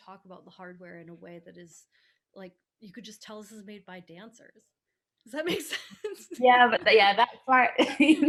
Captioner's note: laughing